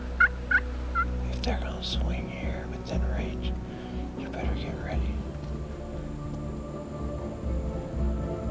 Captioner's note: whispering